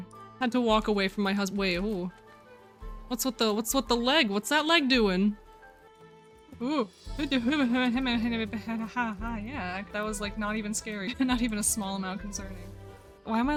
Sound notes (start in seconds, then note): 6.3 noises of audible concern